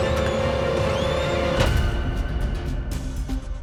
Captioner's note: door thuds; gentle intense music